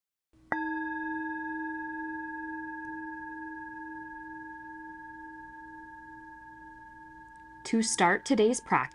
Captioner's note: chime